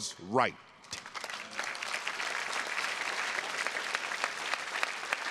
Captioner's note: audience applauding